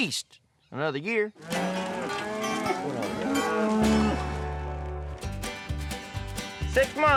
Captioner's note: cattle mooing